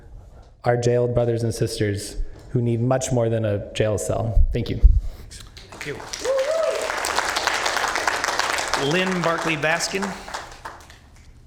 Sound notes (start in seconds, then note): 7.5 applause